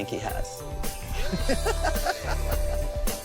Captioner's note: laughs